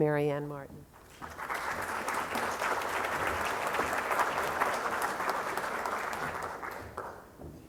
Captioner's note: applause